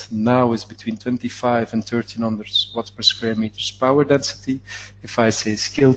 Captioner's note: distortion interferes with audio